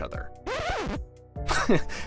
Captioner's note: record scratch